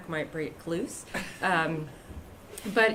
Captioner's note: laughter